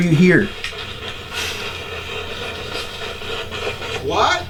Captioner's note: radio static hisses